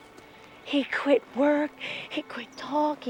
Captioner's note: none